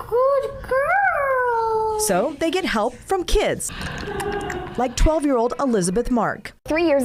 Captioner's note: laughter